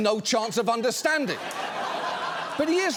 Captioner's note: audience laughs